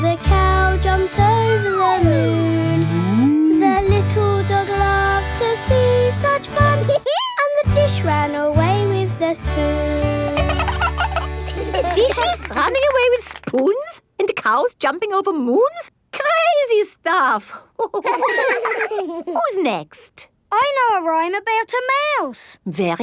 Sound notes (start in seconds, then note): 6.8 dog laughs; 10.3 both laugh; 17.8 all laughing